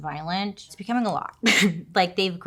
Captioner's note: laughs